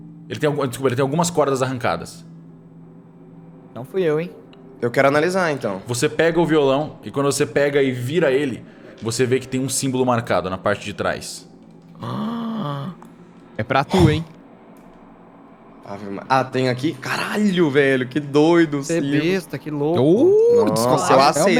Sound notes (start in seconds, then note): 12.0 gasp